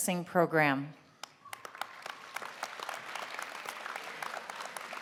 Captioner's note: applause